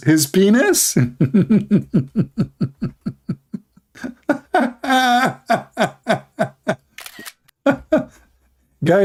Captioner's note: Ketawa